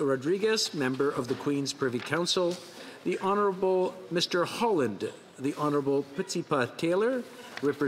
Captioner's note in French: voix de l'interprète